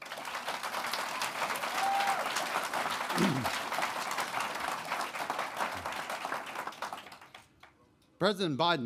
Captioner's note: applause